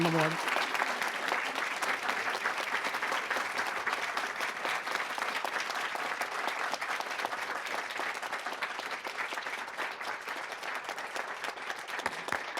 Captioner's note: applause